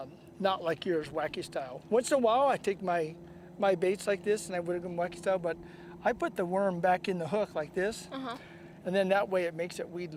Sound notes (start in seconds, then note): none